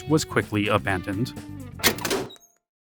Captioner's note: door creaks